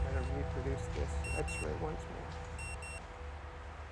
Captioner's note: beeps